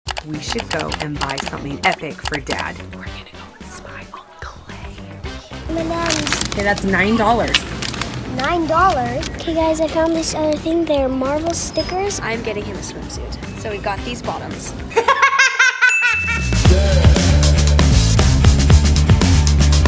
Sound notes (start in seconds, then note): 14.9 loud laughing; 16.2 energetic music